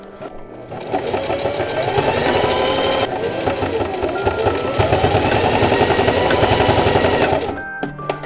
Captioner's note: sewing machine noise